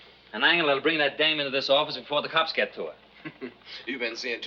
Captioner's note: laughs